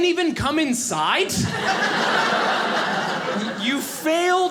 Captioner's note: audience laughing